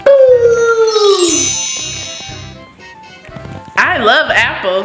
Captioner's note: magical ting